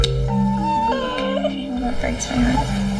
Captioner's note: Putter whines